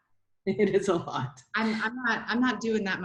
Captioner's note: chuckles